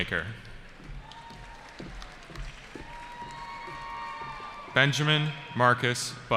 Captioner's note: cheering